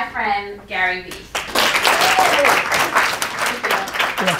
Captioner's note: audience applauding